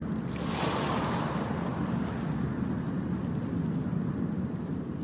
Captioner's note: sounds of waves